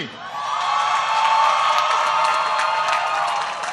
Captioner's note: applause